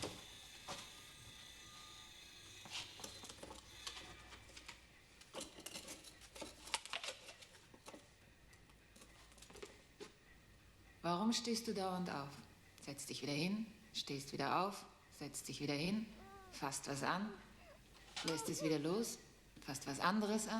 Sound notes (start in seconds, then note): 10.9 speaking german; 18.2 child crying; 18.7 speaking german